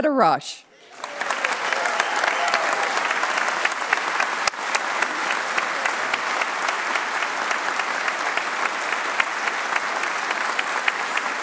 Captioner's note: cheers and applause